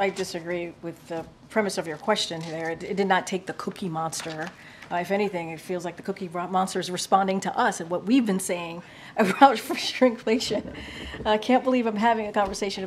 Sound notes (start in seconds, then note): 10.1 laughs